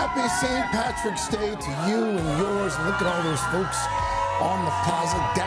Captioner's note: cheers